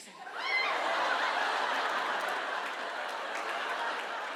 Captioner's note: audience laughs